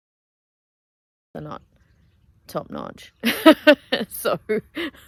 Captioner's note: laughing